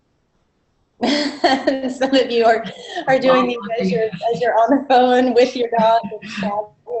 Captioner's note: laughter